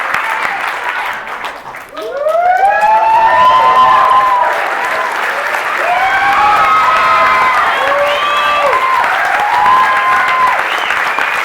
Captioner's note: cheering; cheering